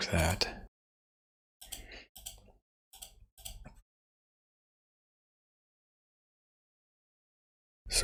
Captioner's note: blank Audio